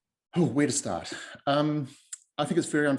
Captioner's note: exhales